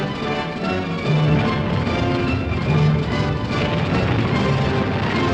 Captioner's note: guns booming